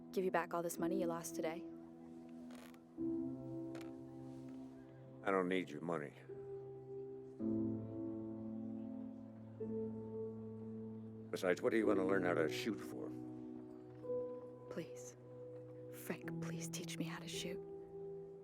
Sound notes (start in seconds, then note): none